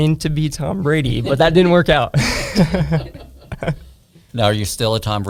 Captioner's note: laughs